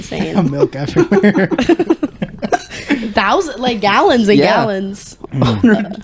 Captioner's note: laughing